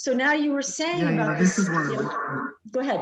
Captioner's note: microphone distortion